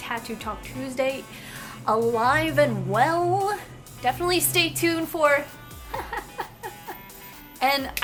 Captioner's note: mischievous laughter